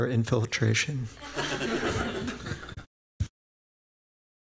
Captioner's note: laughter